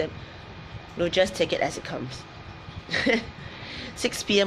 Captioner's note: laughs